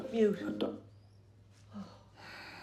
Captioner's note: TV sound cuts out